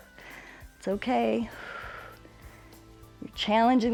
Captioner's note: exhales